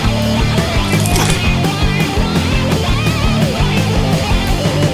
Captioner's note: bones crack